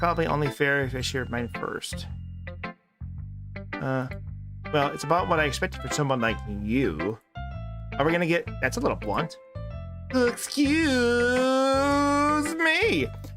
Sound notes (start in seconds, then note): none